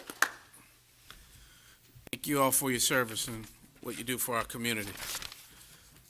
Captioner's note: applause